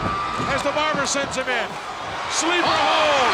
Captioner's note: audience cheers